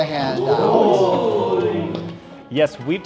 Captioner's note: campers exclaiming